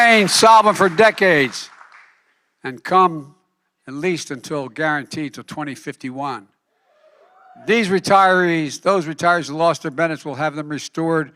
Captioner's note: applause